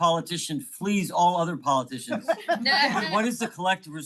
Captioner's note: attendees laughing